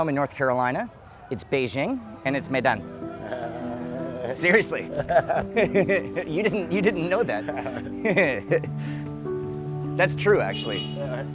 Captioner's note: laughing